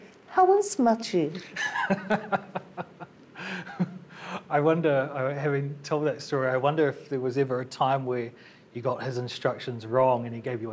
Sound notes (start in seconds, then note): 1.5 laughs